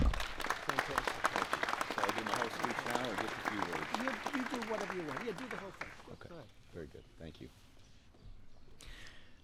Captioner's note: applause